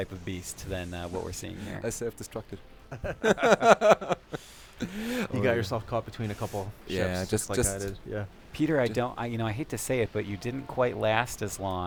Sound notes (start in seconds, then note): 2.9 laughter